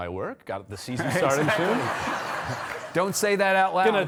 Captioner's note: audience laughing